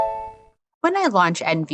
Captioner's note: NVDA Start Chime